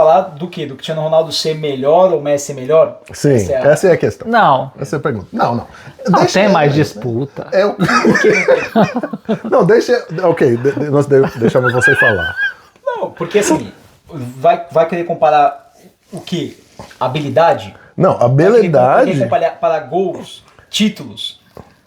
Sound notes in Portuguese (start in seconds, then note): 7.4 risadas